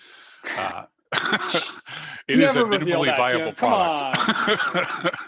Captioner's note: laughs